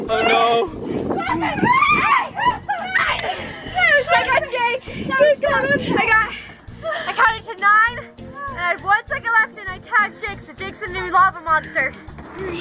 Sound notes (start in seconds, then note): 1.2 screaming; 5.3 yelling